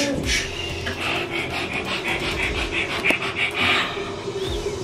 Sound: breathing rapidly

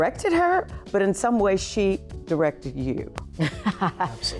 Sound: chuckling

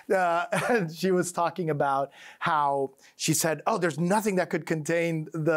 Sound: chuckles

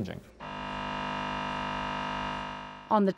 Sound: machine buzzing

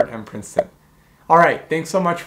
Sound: bubble popping

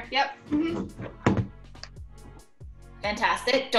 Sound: microphone clatters

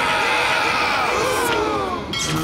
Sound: gasps

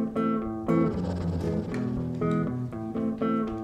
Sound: a gust of wind; soft guitar music continues

